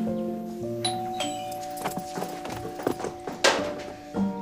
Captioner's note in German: Türklingel